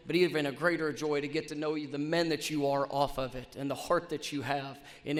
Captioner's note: none